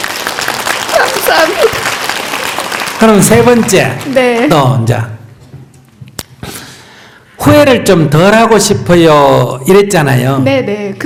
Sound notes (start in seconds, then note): 0.0 questioner / Audience Laughter and Applause; 0.7 questioner Laughter